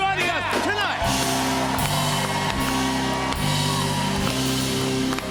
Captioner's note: cheers and applause